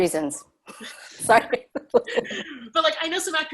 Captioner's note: laugh